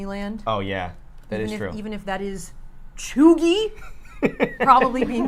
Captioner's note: laughs